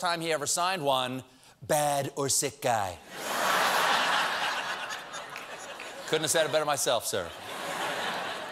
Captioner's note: laughter